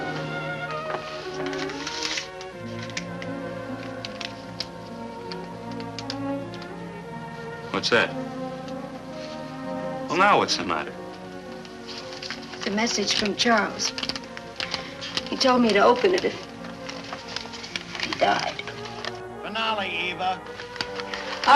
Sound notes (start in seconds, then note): 0.1 sentimental music; 16.3 envelope rustling